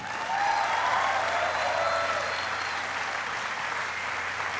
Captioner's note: applauding